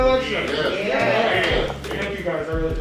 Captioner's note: crowd